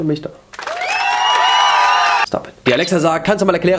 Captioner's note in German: Applaus